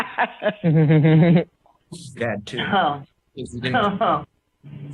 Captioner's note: laughter